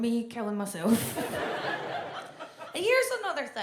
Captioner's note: audience laughs